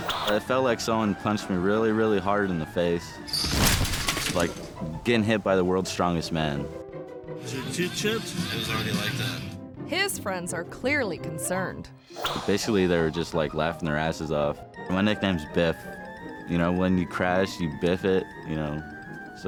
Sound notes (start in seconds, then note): 3.3 bike clatters; 3.3 body thuds